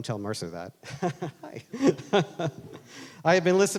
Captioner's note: laughing